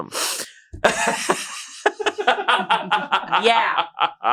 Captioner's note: laughs